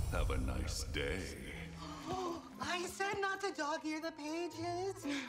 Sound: gasps

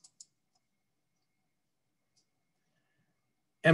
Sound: clicking

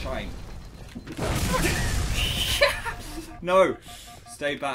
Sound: both laugh

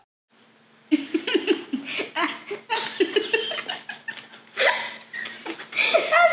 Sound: laughter

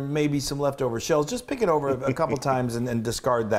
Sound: laugh

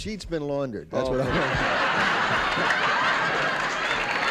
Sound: applause and cheering

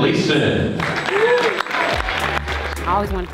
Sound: audience applauds

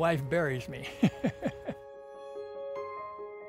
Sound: laughing; peaceful soft music

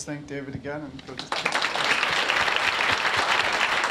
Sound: applause

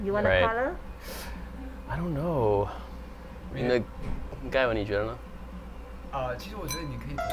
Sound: sharp inhale

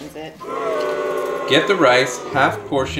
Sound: booing

